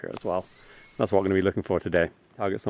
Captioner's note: Eye-ringed Flatbill whistles